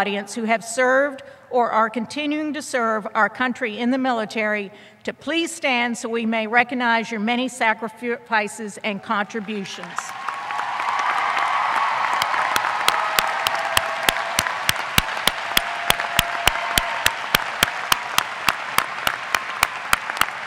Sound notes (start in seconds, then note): 12.7 applause